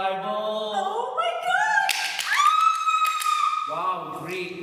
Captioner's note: claps and squeals